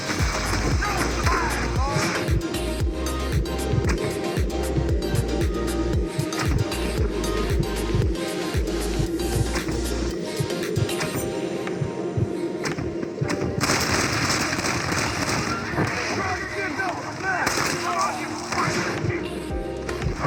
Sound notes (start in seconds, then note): 3.1 sounds of composure and locking targets; 13.6 sounds of composure ending and firing; 18.1 sounds of composure ending and firing